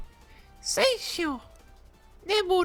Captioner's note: japanese Zeno voice